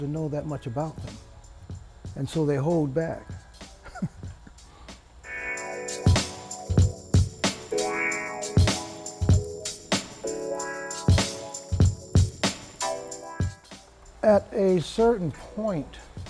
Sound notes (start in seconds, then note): 3.8 laughs; 5.4 chill beat music